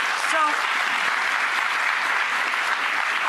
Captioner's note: applause